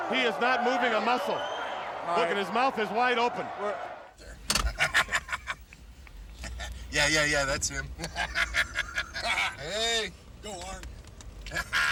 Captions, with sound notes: He is not moving a muscle. Look at his mouth, it's wide open. There. (laughs) Yeah, yeah, yeah. That's him. Hey. Go, Arn.